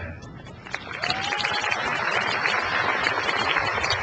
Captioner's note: crowd applauds